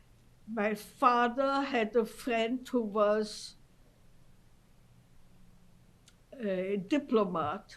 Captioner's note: pauses for 3 seconds